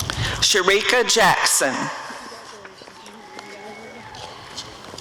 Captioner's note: audience cheering